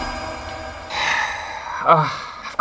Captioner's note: sigh